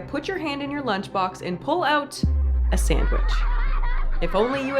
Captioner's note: children laughing